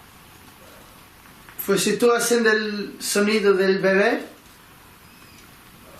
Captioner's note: speaking in foreign language